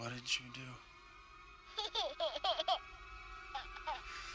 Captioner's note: creepy undead child laughter